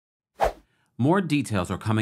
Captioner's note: air whooshes